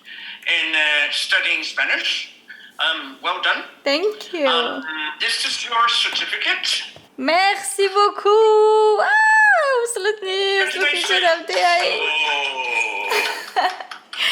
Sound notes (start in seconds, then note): 9.1 shouts in excitement; 12.0 claps; 12.7 chuckles